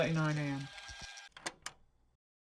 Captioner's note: the tape ends and ejects